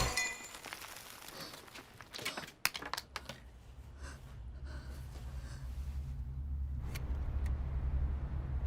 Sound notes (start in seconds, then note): 1.7 breathing loudly